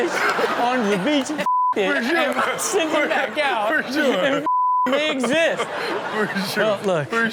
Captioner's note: beep